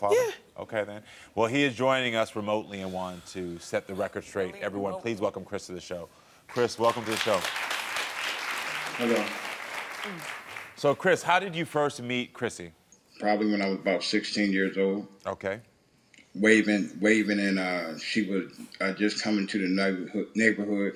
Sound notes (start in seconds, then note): 6.5 audience applauding